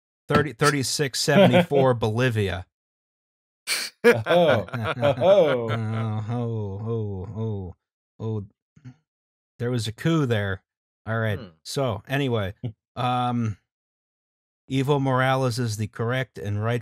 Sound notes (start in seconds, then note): 1.3 laughter; 4.0 laughter; 6.3 flatly